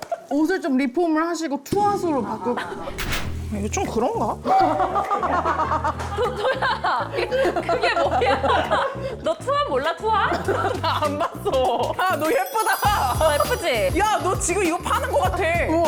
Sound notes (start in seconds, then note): 2.8 sound effect of making a decision; 4.4 refreshing sound effect